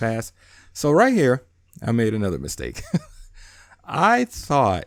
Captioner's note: laughs